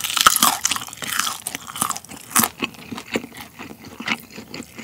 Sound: crunchy

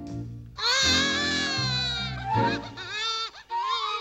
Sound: wailing

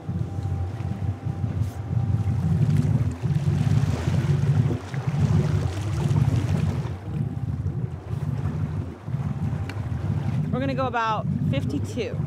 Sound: water lapping

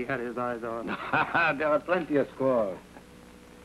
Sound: laughing

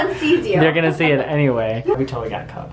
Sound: chuckles

